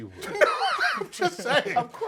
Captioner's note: laugh; laughs